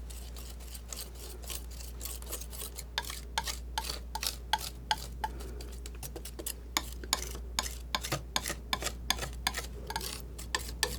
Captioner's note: scratching